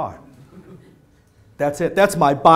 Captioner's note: laughter